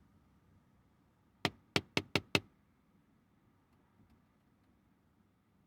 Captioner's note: tapping on window